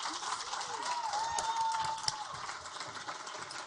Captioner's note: audience applaud